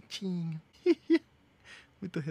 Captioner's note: laughs